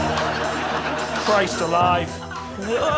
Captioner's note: audience laughing